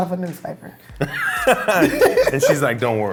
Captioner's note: laughing